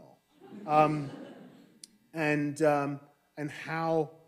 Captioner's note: audience laughing